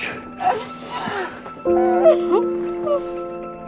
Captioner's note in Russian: женский плач